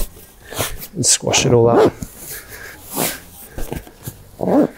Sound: fabric swooshing; zip rasping

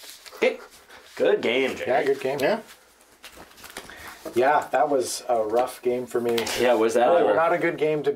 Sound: none

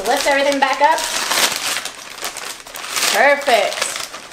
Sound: plastic crinkling

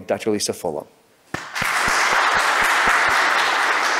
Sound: applause

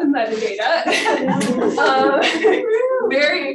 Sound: audience laughing

